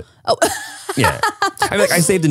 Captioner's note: laughs